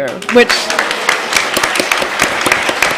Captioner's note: applause